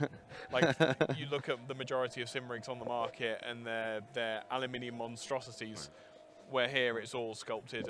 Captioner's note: laughing